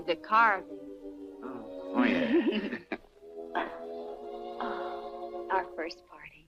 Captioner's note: Ellen chuckles